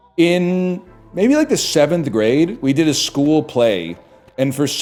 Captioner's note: none